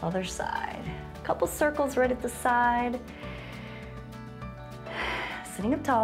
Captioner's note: inhales and exhales